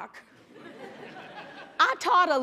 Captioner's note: laughter